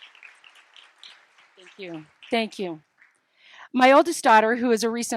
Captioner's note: applause